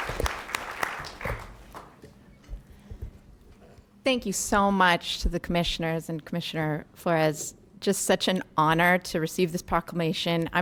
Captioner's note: applause